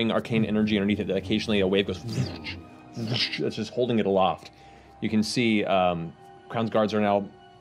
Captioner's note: whooshing